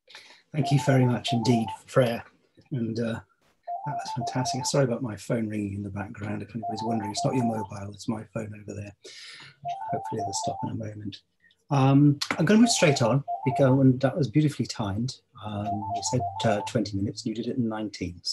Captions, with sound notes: - Thank you very much, indeed Freya. (phone rings) And that's fantastic. (phone rings) Sorry about my phone ringing in the background. If anybody's wondering, it's not your mobile, it's my phone over there. Hopefully it will stop in a moment. I'm going to go straight on because that one was beautifully timed. You said 20 minutes, you did it in 19.